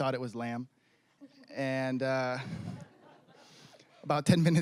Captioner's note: scattered laughing